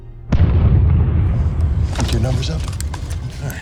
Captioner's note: explosion booms